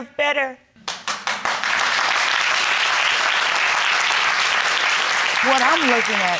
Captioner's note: crowd clapping